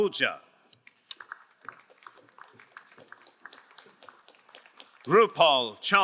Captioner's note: crowd cheering and applauding